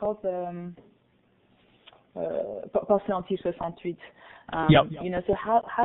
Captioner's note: foreign language